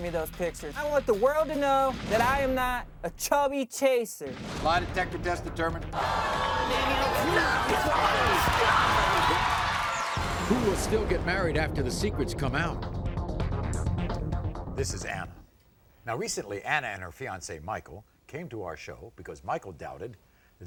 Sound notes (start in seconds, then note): 5.7 audience gasping